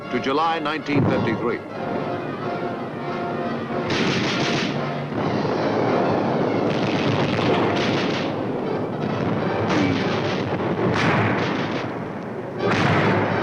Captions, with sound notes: to July 1953. (guns firing) (cannons firing)